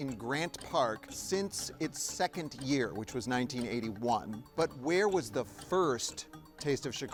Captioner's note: none